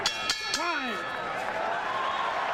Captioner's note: bell rings